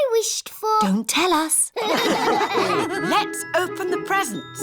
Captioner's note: all laugh